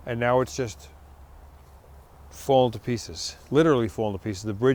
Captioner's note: none